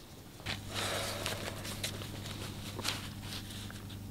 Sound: man sighs

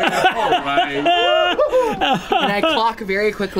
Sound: laughter

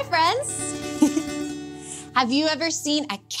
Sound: chuckles

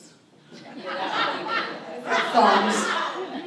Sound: audience laughs

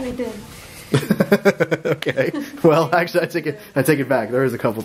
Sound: laughter

